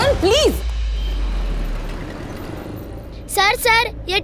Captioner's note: Traffic sound